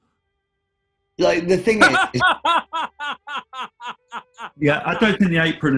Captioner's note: laughing